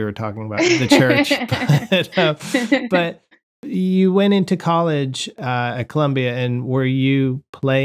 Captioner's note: laughter